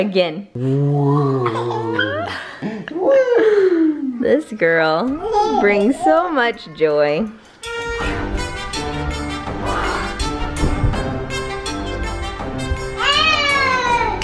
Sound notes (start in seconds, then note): 1.0 laughing; 7.7 playful music